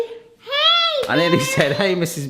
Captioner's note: hands slapping